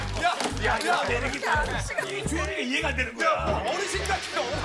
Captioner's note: scratches